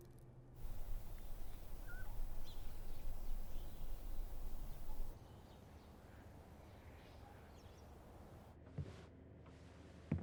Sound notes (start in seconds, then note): 0.6 birds singing